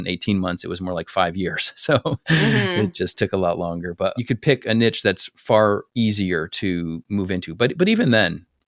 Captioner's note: laugh